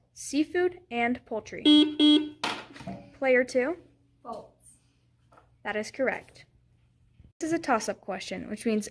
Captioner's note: buzzer sounds